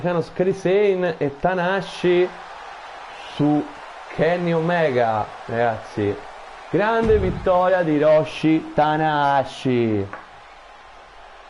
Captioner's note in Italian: Applauso